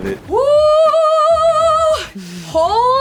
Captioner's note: exclaiming